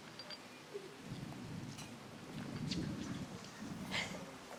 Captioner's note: thunder booming; Betsy whimpering